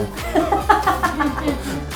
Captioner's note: laughs